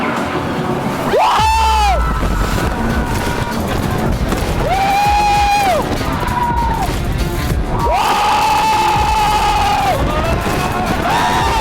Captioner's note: screaming. like a lot. and it's mostly